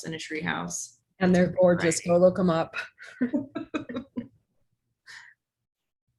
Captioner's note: laugh